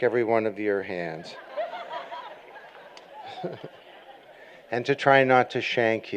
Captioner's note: laughter